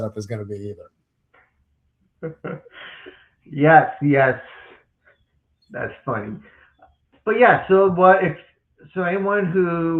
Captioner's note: still chuckling